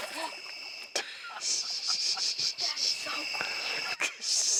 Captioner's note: water splashing; gasping